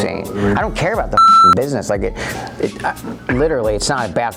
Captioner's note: beep